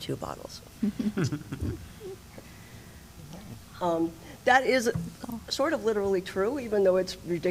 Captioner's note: laughter